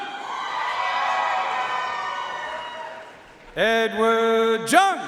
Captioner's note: audience cheering and applauding